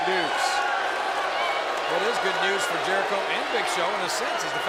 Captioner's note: applause